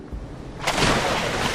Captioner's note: splash